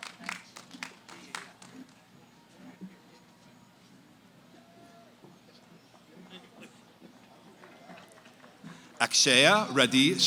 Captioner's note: cheering, applause; background conversations